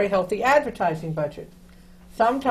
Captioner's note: none